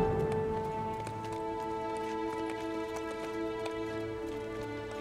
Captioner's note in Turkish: At nalı sesi